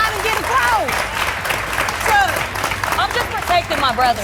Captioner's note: audience applauding